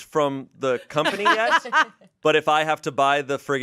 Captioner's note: laughs